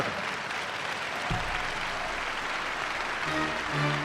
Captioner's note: audience applauds; military music